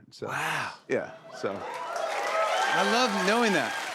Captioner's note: cheers and applause